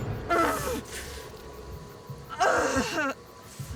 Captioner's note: Dorothy grunting